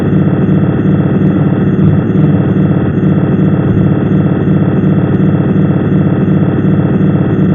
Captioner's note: strange sound pulsing